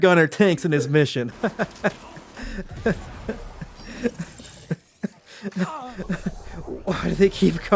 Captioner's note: endless sad laughs